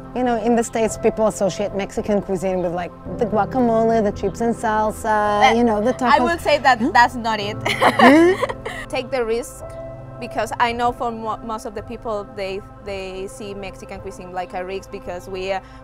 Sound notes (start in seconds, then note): 7.6 laughs